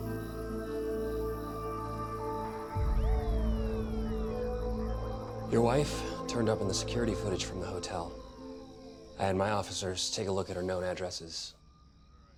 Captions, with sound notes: (siren wailing) - Your wife turned up on the security footage from the hotel. I had my officers take a look at her known addresses.